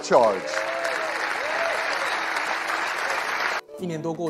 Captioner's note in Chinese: 歡呼聲 + 掌聲